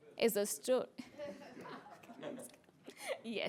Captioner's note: laughter